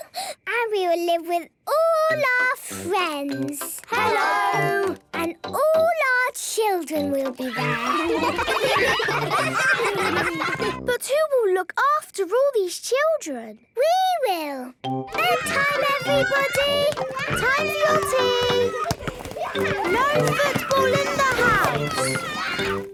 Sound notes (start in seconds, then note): 7.4 ruckus; 15.1 children playing